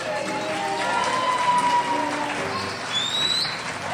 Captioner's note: crowd cheers